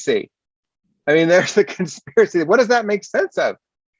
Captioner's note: laughs